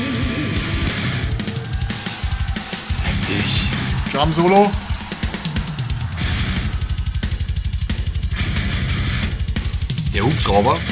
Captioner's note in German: Applaus